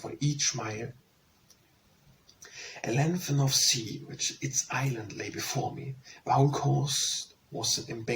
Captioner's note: Danish